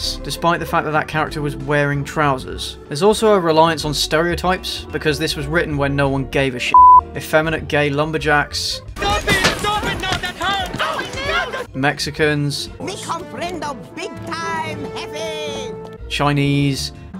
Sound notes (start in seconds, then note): 9.7 gay noises